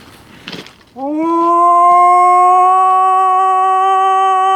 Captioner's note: howling